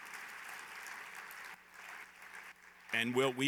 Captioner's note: applause